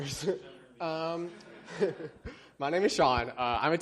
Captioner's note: laughter